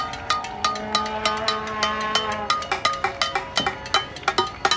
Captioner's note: horn blowing